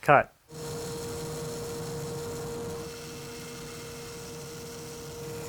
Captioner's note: high-speed saw whirring